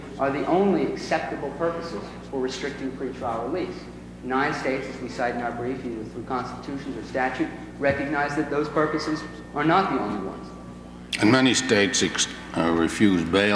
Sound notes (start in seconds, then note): none